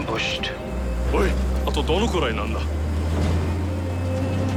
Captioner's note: speaking Japanese